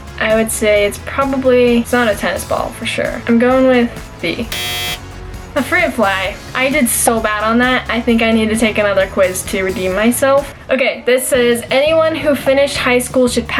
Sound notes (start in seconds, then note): 4.5 buzzer